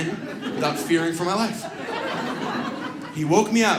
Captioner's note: audience laughs